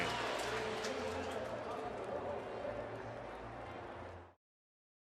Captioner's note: pa announcement